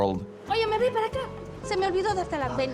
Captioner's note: in Spanish